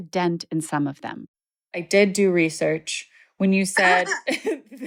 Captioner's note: laughter